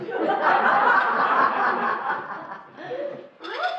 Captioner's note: laughing